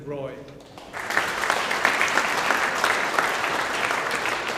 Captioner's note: audience applauding